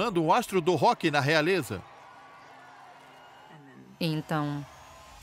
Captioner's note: crowd cheering